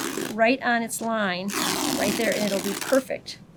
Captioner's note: fabric tearing